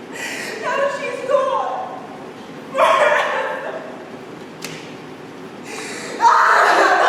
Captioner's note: Lear screams in despair